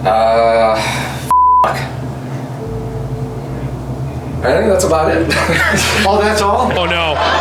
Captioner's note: laughs